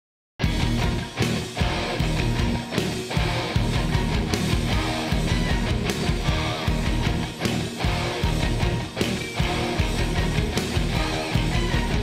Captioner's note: crowd cheering